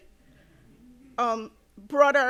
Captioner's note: audience softly chuckling